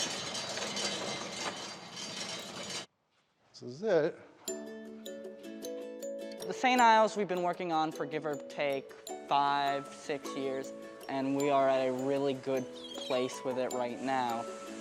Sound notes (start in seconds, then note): 3.2 metal chain clanging; 5.6 lighthearted music